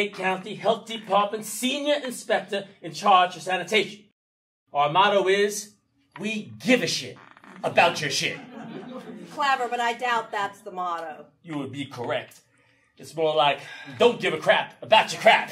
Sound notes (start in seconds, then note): 8.1 audience laughing